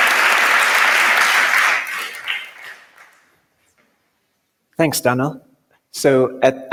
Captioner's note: applause